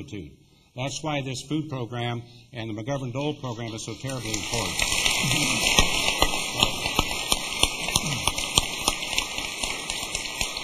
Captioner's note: applause